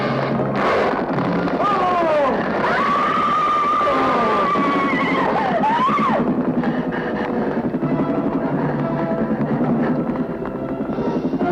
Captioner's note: screaming